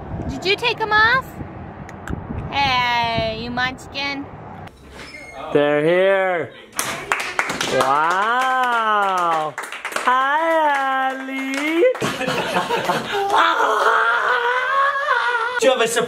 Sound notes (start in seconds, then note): 6.8 applause